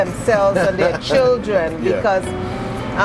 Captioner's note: laughs